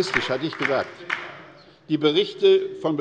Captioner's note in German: Zurufe